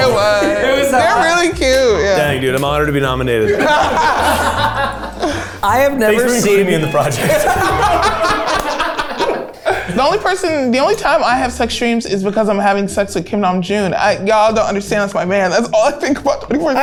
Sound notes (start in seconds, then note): 3.4 everyone laughing